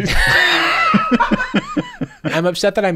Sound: heavy laughter

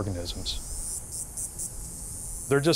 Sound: cicadas buzzing

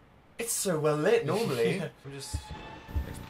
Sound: laughs

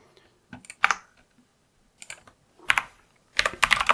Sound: typing

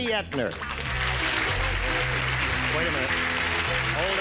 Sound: applause

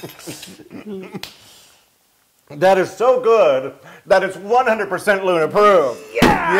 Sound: laugh

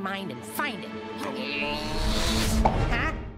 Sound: grunting

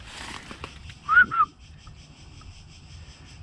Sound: whistling

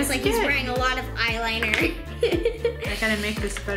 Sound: laughs

